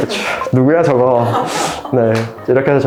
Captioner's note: laughs